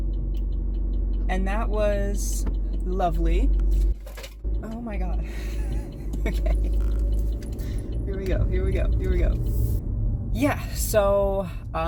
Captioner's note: crunching sound